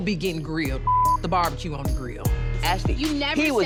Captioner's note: beeping